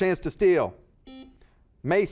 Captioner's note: buzzer buzzes